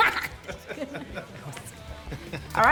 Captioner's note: group chuckles